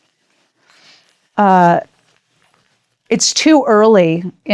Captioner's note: paper rustling